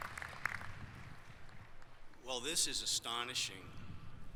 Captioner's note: applause